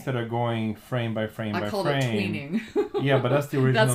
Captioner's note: laughs